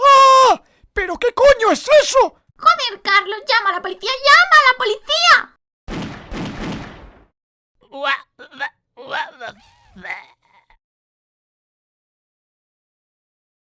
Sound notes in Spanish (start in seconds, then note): 0.0 Grito; 5.8 Tres disparos